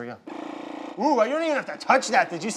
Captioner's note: Nutrichef roaring